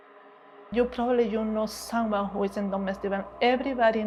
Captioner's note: speaking foreign language